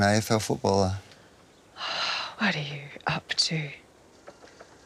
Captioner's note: sighs